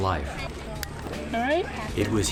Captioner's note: buckle clicks